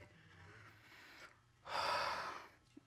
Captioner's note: sighs